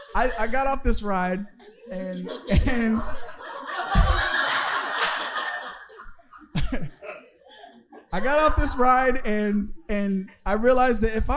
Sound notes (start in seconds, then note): 3.7 audience laughing